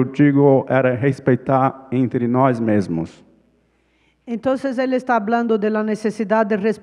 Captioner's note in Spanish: ponente habla en portugués